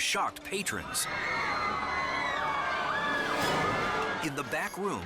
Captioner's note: patrons screaming